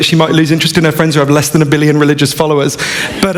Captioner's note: laughter